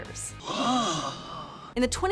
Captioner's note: gasping